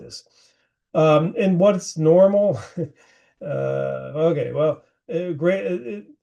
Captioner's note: chuckling